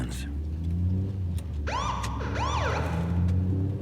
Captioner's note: sirens